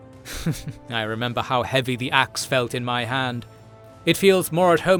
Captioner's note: chuckles